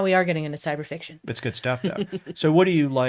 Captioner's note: laughs